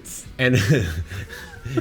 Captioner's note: laughs